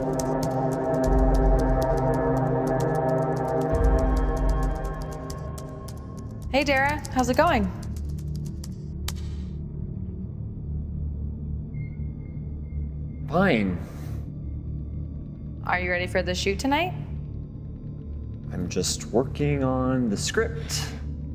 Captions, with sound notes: (mysterious music) (keyboard keys clacking) - Hey, Darragh, how's it going? - Fine. - Are you ready for the shoot tonight? - I'm just working on the script.